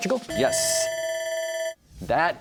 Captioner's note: bell ringing